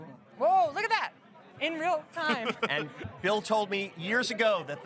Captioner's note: laughter